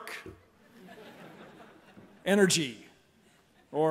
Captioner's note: laughter